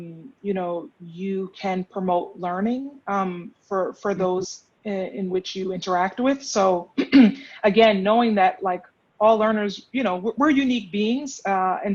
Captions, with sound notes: you know, you can promote learning for those in which you interact with. So (clear throat) again, knowing that like all learners, you know, we're unique beings.